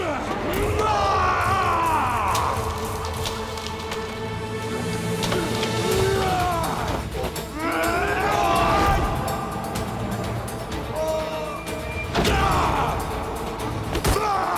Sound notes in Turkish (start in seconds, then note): 0.0 Bağırma sesi; 4.8 Dövüş sesleri; 11.8 Müzik - Gerilim